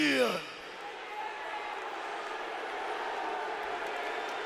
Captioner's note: audience cheering